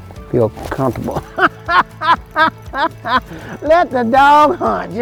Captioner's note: man laughing